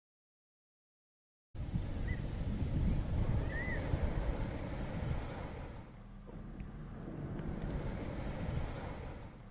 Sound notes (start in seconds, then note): 1.6 waves crashing; 2.9 birds chirping; 6.6 waves crashing